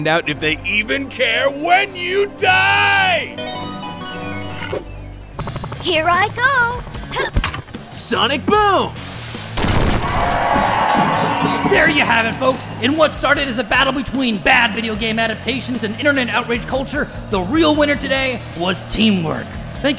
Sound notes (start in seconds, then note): 9.6 audience cheering; 9.7 Sonic crashing